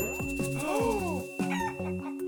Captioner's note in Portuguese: ding